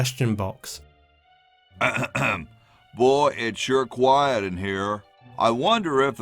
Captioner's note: clears throat